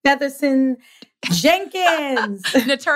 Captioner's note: laughs